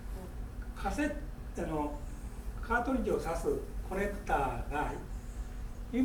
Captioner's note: speaking in foreign language